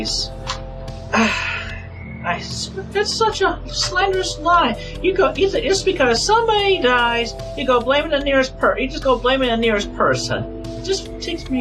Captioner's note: sigh